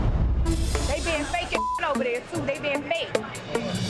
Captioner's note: beeps